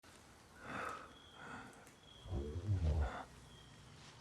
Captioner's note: breathing heavily